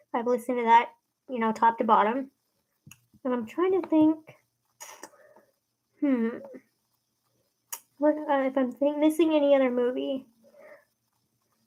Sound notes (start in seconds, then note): 4.6 hums and sucks teeth